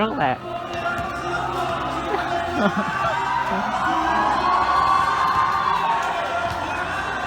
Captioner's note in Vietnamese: mọi người hò hét